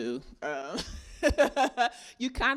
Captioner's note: laughing